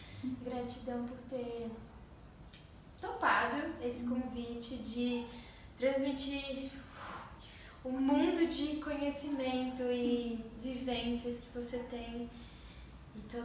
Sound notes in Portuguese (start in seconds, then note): 6.9 sopro